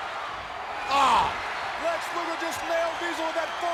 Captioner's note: Ted groans